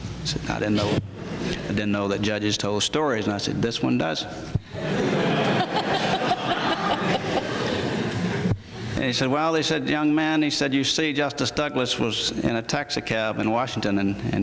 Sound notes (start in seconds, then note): 4.7 laughter